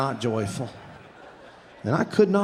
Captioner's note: audience laughing